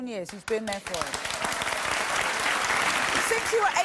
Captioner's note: audience applauding